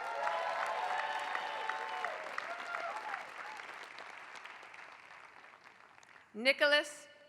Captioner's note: applause